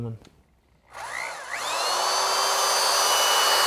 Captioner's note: drill